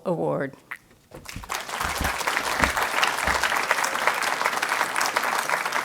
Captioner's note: audience applauding